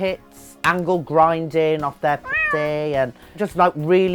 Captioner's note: cat mows